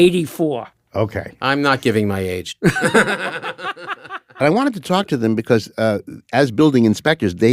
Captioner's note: laughs